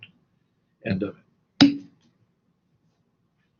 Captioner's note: pop